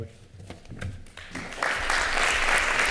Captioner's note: applause